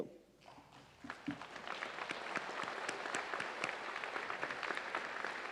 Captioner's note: audience applauds